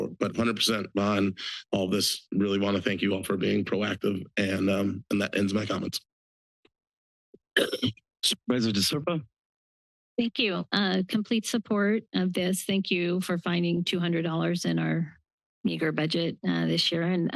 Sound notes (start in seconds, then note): 7.6 clears throat